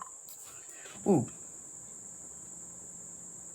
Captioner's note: suprised